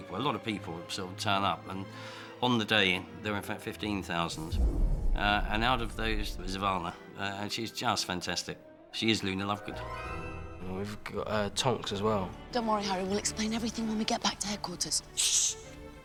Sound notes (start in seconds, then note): none